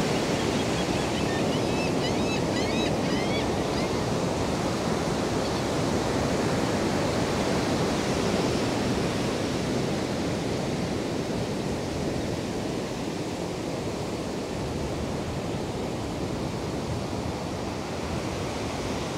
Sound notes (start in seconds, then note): 0.1 gulls calling nearby